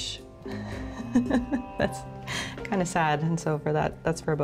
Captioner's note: laughs